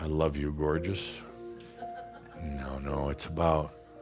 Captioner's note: a few chuckles